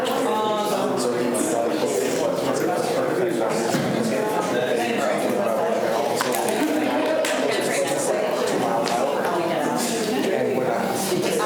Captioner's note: students chatter